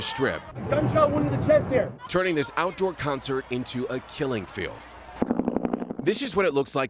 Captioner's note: gunfire